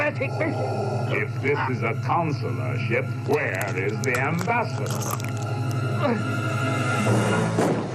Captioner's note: choking, dying